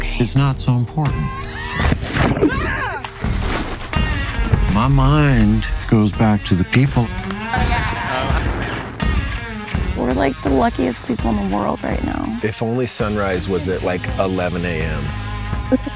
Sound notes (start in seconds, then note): 3.0 water splashing; 3.1 body thudding; 4.0 upbeat rock music